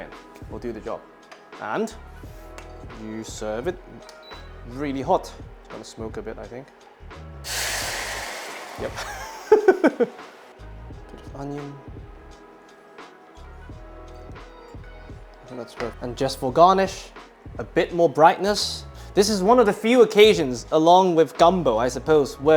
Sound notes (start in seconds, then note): 7.4 sizzling sound; 9.1 laughs